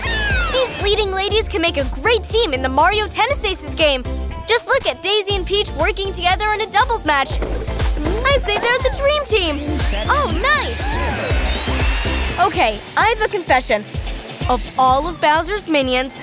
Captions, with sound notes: These leading ladies can make a great team in the Mario Tennis Aces game! [cheery synth music] Just look at Daisy and Peach working together in a doubles match. I’d say they’re the dream team! Oh, nice! [crowd cheering] [cheery rock beat] OK, I have a confession, of all of Bowser’s minions,